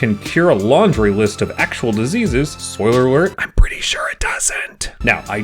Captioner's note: whispers